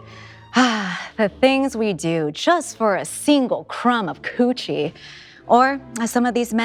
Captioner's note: sighs